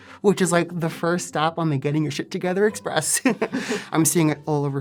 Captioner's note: laugh; chuckle